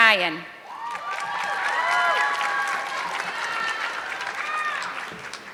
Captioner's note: audience clapping